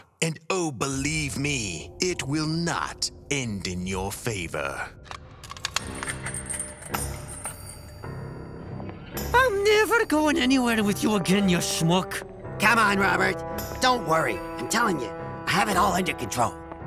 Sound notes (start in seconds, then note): 5.4 chains clanking